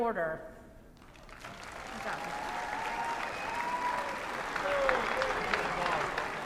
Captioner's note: applause